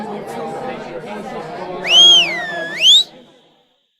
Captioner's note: crowd murmuring; loud whistle